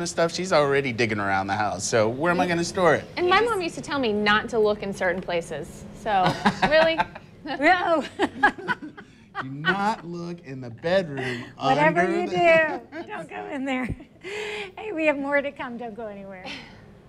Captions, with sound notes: SO WHEN ONE HOLIDAY IS SHOP WHERE DO YOU Jf&NSTORE IT? BECAUSE MIGHT BE THAT, SHE KNOWS ME. IF SHE KNOWS THERE IS CHRISTMAS STUFF, SHE IS ALREADY DIGGING AROUND THE HOUSE. WHEN WILL A STORE? >> MY MOM WOULD TELL ME NOT TO LOOK IN SPECIFIC PLACES. [LAUGHTER]